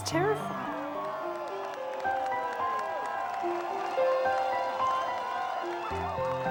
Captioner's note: crowd cheering